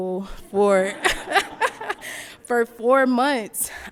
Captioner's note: laughs